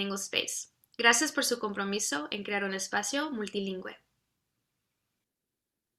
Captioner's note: speaks in foreign language